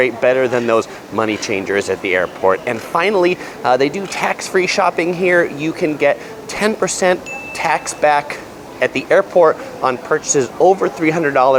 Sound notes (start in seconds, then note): 7.2 bell dings